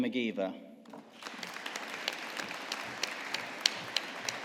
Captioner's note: audience applauding